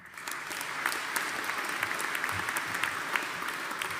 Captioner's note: audience applauding